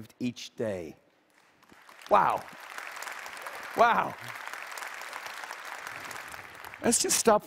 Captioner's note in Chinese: 掌聲; Applause